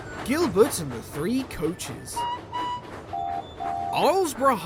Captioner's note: ryan and duck whistle